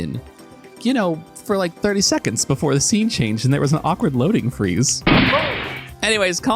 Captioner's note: gunshot